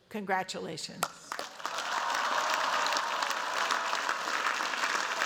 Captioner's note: cheers, applause